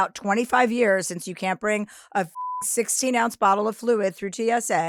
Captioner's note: beep